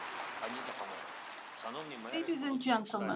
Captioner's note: Volodymyr speaking foreign language